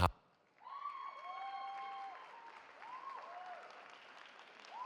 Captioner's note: cheering